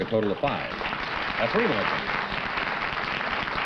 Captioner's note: applause